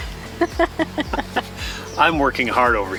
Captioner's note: laughs